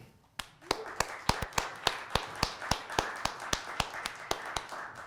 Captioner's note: audience clapping